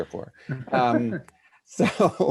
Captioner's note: laughing silently